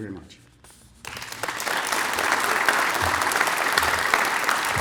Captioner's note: applause